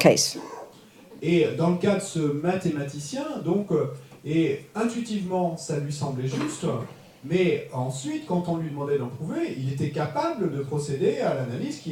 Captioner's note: French